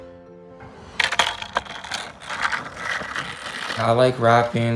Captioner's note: gravel crunching